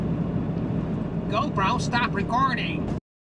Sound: with American Accent

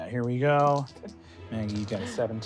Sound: rolling dice

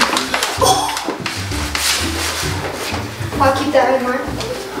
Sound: laughs loudly

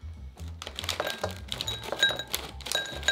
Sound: potatoes dropping

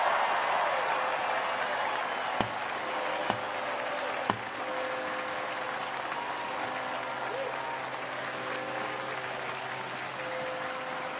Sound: cheers and applause

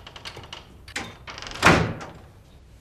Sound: door closing

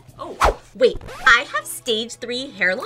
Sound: record scratches

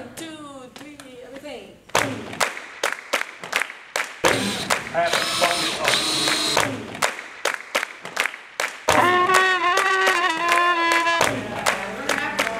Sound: clapping

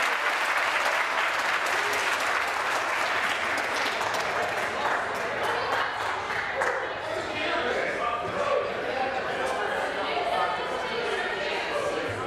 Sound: applause

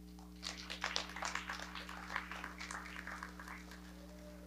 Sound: audience clapping

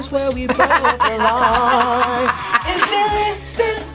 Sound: laughs

